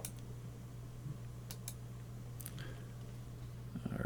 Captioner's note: clicking